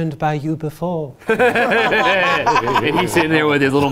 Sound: group laughs

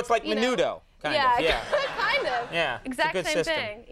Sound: audience laughing

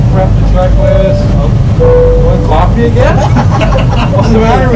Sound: laughing

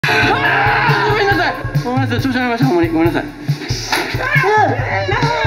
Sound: Labyrinth of Fear, Super super super screams!; Labyrinth of Fear, Super super super screams!

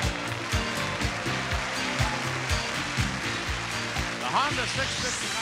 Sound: audience applauding

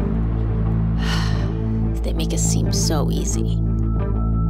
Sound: sighs

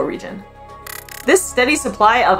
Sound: background music; glitch sound effect

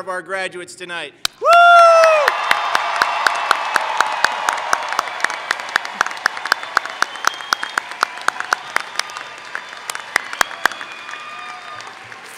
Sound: cheering/Applause

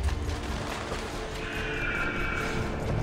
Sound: eagle screech

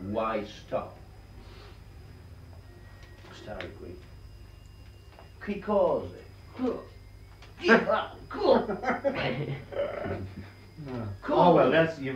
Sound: italian sounding gibberish

